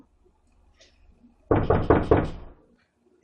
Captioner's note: knock